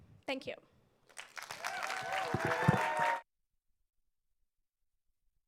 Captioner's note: audience applauds